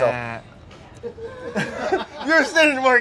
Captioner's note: people laughing